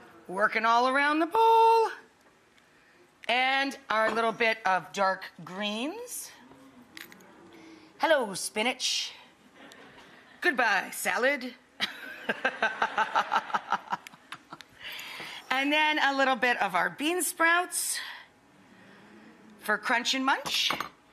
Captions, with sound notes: working all around the bowl and our little bit of dark greens. Hello, spinach. (crowd laughing) Goodbye salad (laughs). (crowd laughing) And then a little bit of our bean sprouts for crunch and munch.